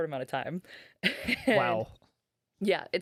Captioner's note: laughing